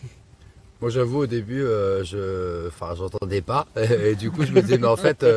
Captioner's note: spirit box